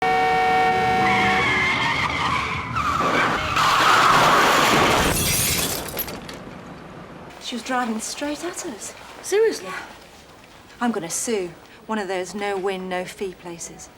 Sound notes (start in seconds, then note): 0.0 horn beeps; 0.2 brakes squeal